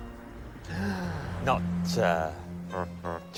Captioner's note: gasps